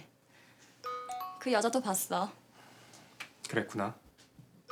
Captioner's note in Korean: 휴대전화 문자 수신음